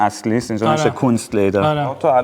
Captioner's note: in German